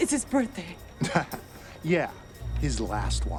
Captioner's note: guard chuckles